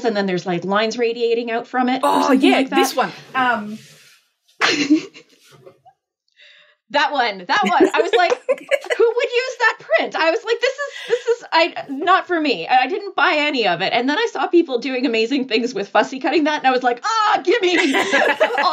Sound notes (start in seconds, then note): 7.6 laughing